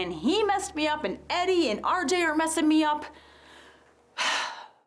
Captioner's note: sighs